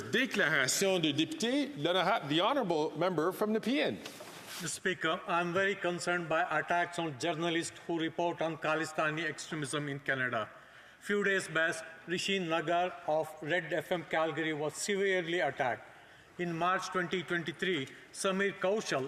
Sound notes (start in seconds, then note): 5.0 speaking French